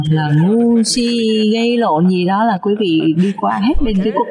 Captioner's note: laughter